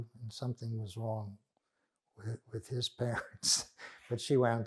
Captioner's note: laughing